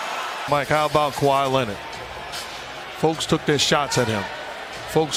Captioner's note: announcer speaking; crowd cheering loudly; announcer speaking